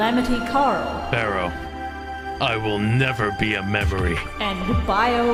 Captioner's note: Anubis voice